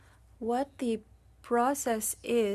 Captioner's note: speaking French